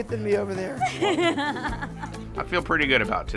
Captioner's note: laughing